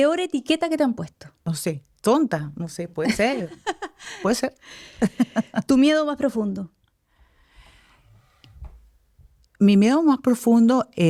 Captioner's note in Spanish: risas